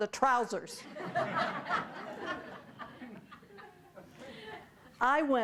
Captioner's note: audience laughing